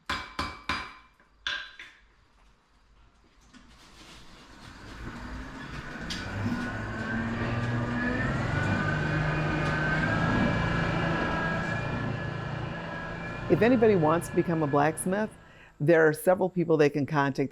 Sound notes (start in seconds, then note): 0.0 hammer clanking; 4.5 hand crank whirring